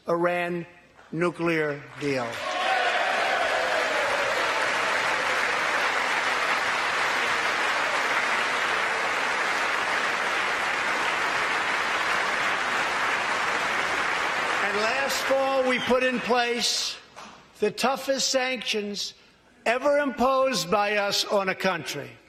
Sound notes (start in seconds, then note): 5.6 applause